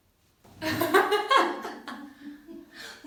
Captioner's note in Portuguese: risos